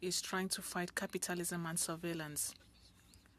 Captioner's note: speaking French